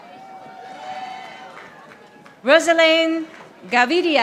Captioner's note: audience applauding